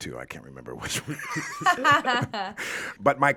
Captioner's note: all laughing